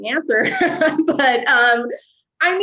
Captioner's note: chuckles